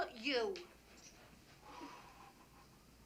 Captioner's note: sighs sharply